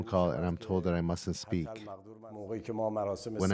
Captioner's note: speaking Alternate Language